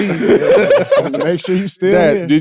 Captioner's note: group laughing